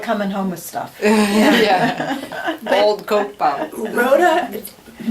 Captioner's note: laughs